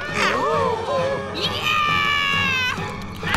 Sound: screaming

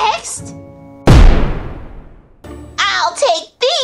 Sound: explosion

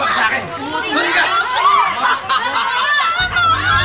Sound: laughs

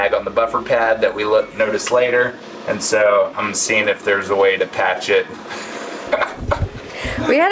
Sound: laughing

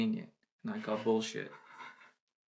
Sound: she giggles

